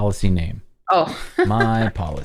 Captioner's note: laughter